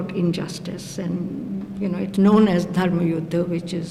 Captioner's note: non-english speech